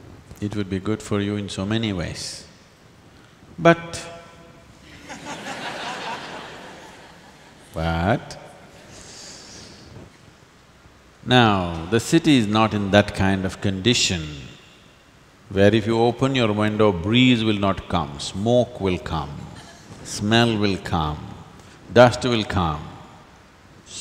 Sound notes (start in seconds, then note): 4.8 laughter